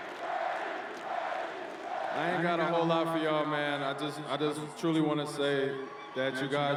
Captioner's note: chanting